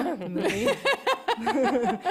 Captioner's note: laughter